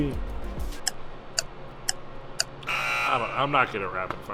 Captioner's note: clock ticking; loud buzzer